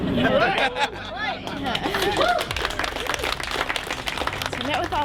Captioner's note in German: jubelnde Menge und Applaus